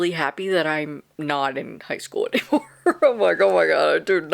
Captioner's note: laughs